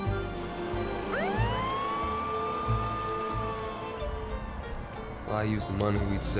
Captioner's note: POLICE CAR MOTOR STARTS,</i> <i> SIRENS WAIL